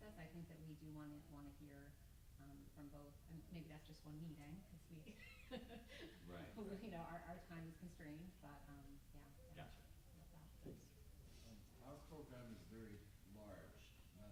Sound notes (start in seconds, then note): 2.8 mutters; 6.3 panelist murmuring